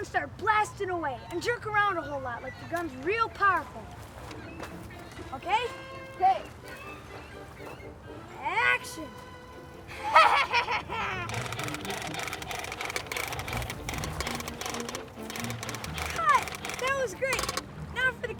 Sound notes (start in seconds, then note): 9.9 maniacal laughter; 11.7 gun firing